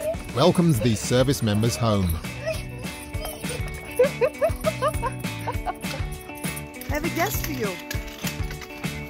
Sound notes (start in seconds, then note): 3.8 onlooker laughing